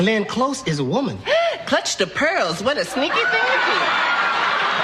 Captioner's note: Suspiros